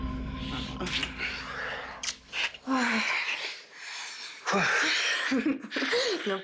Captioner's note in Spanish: Suspiro